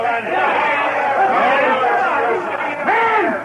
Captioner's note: all shouting